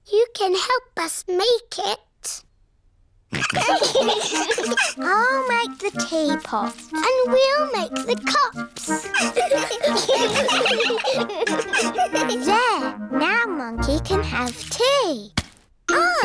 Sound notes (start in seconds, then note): 3.4 all laughing; 8.8 all giggling